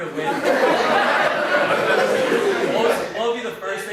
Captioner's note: audience laughs